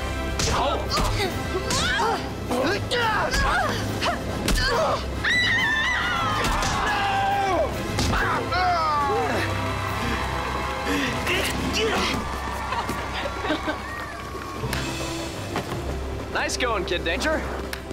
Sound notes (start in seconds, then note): 0.3 punching; 2.4 groaning; 5.2 screaming; 7.9 moaning; 12.6 laughing